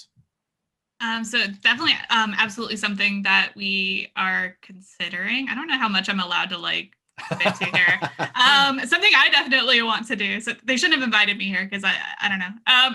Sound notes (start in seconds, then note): 7.2 laughs